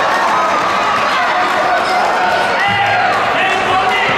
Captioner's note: ball thudding